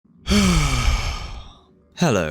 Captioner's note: groan